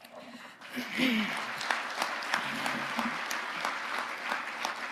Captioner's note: audience applauding